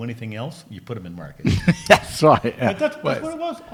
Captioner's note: laughs